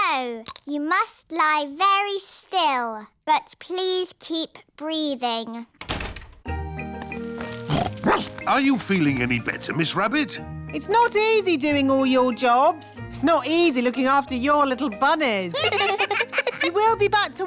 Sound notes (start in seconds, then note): 5.8 door shuts; 7.2 snorts; 7.7 barks; 15.5 children laugh